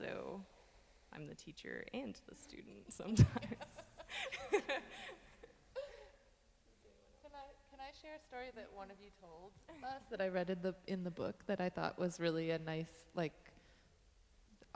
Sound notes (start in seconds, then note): 3.1 laughing